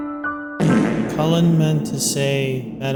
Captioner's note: fart Noise